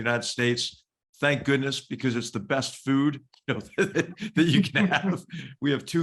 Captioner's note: laugh